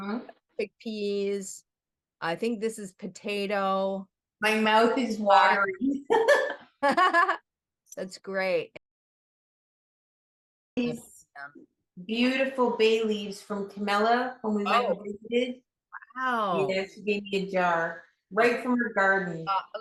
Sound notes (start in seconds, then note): 6.0 laughs